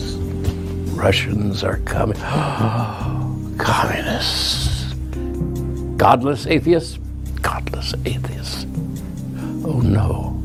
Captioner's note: gasp